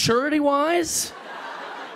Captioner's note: laughter